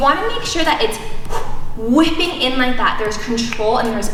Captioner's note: exhales sharply